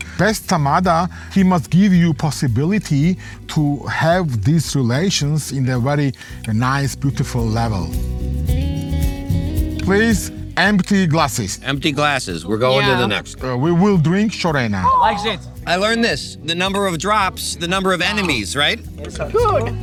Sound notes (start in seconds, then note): 8.1 lively cheerful music; 14.7 people cheering